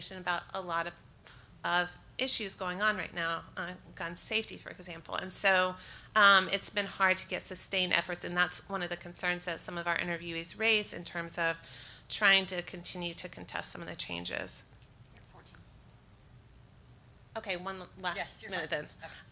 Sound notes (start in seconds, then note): none